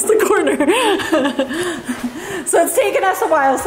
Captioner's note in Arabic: تضحكان كلاهما